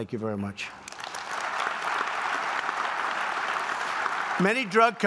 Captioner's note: applause